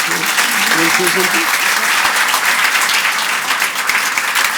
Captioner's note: audience applauds